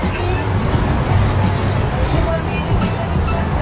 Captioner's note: birds chirping